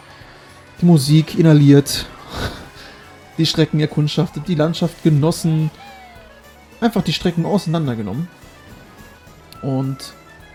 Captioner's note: laughs